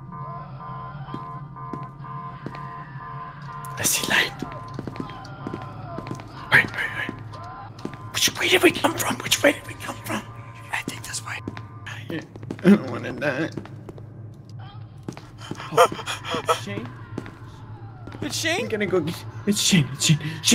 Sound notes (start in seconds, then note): 0.2 screaming in the background; 5.0 screaming continues